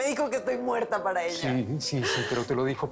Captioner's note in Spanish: Solloza